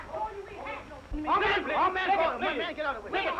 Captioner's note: all shouting